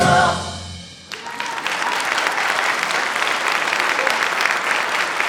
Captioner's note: audience applauds